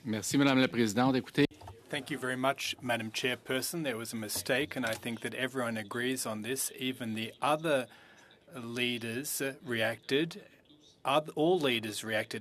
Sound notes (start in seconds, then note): 3.0 speaking French